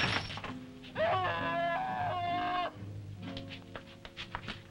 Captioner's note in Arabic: تحطيم الزجاجات; برونو يصرخ